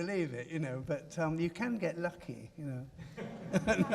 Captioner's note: laughs